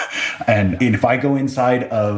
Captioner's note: laugh